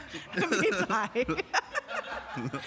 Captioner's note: laughter